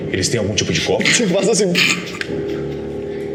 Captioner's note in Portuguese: segurando a risada